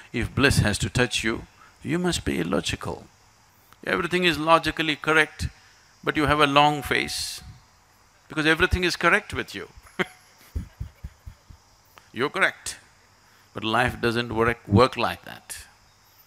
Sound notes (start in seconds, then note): 9.8 laughs